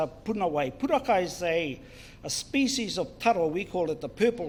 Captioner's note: foreign Language